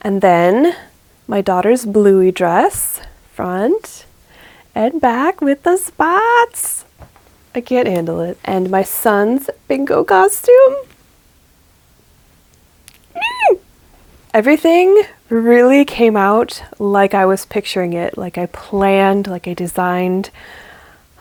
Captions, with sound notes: And then my daughter's Bluey dress - front, and back, with the spots! I can't handle it. And my son's Bingo costume! *final squeal* Everything really came out like I was picturing it, like I planned, like I designed;